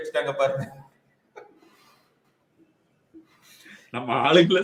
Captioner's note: laughs